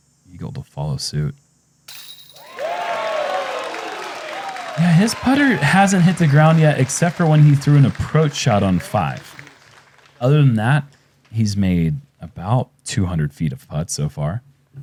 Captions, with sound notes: Eagle will follow suit. [cheering] -His putter hasn’t hit the ground yet except for when he threw an approach shot on five. Other than that, he’s made about 200 feet of putts so far.